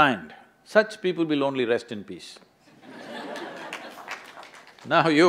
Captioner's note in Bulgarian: смях/ръкопляскане; смее се